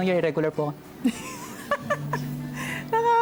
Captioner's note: laughter